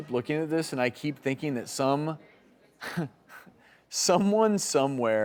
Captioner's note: laughs